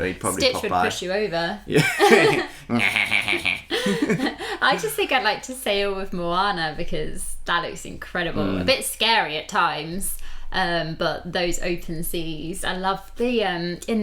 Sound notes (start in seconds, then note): 2.8 Stitch Laugh